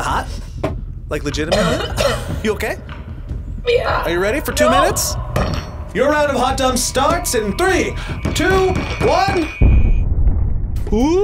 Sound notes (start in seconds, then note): 1.4 coughs; 9.8 explosion echoes